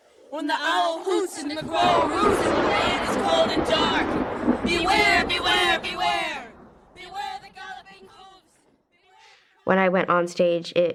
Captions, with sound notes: When the owl hoots and the crow roots and the land is cold and dark. - [thunder rolls] - Beware! Beware! Beware! Beware the galloping hoofs... When I went on stage, it...